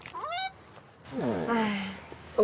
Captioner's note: sigh